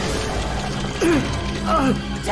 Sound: grunting

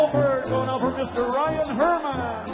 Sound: voiceover

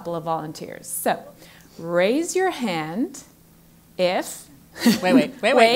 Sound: laugh

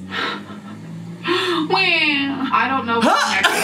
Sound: sighs and moans

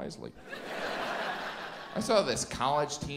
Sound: audience laughs

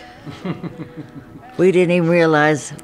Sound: man laughs

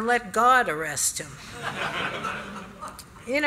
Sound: laughter

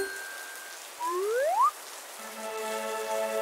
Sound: slide whistle up; fanfare

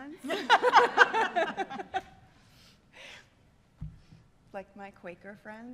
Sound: laughter

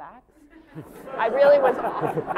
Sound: laughter

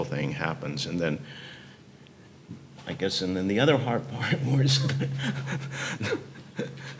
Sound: chuckling

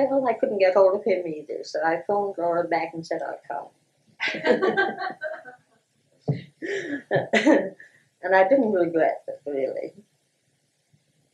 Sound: laughter

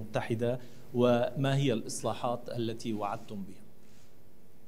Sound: in Arabic

